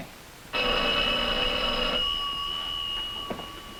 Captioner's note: phone ringing